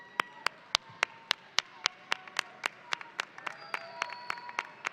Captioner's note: audience applauding